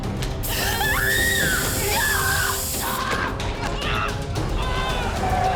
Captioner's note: screaming